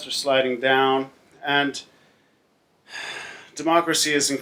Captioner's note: sighs